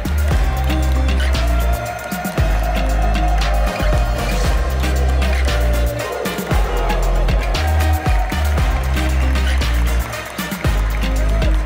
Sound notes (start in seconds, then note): 0.0 applause; 0.0 ♫ Midtempo guitar music ♫; 3.5 loud cheering in team huddle; 7.9 applause; 7.9 ♫ Midtempo guitar music ♫